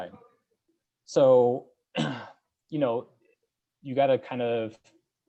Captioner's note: coughs